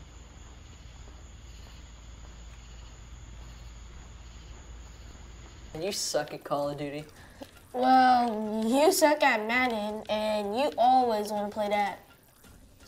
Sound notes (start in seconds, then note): 0.5 crickets chirping